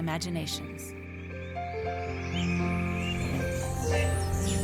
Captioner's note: birds chirping